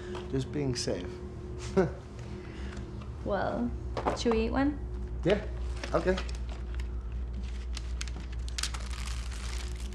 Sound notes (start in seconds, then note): 1.6 laughs